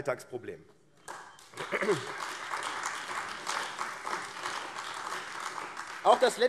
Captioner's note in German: Beifall AfD